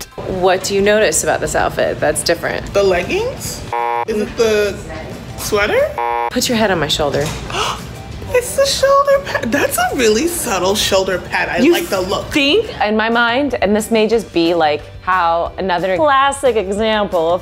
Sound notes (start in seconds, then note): 3.7 buzzer beeping; 5.9 buzzer beeping; 7.4 gasps